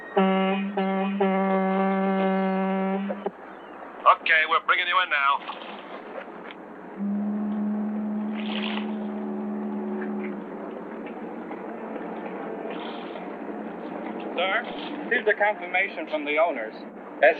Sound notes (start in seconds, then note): 0.0 horn honking; 6.9 fog horn honking